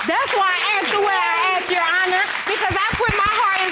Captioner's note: audience applauding